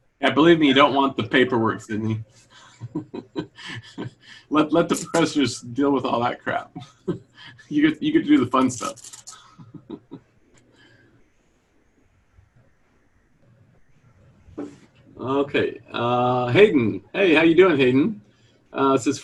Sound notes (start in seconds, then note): 2.5 chuckles